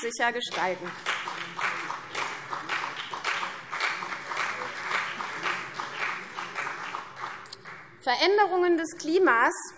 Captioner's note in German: Beifall CDU und vereinzelt BÜNDNIS 90/DIE GRÜNEN